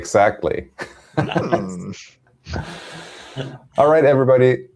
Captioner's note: laughter